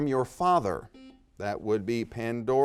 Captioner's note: buzzer dings